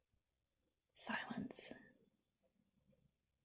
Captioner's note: whispers